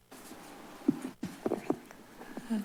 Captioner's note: rustles